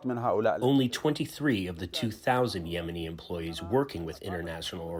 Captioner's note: through translator